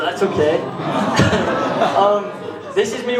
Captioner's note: audience ahing